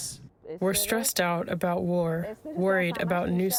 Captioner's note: through translator